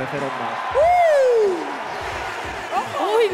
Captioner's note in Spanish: Aplausos